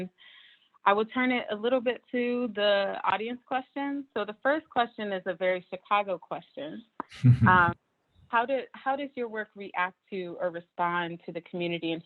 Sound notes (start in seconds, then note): 7.1 chuckling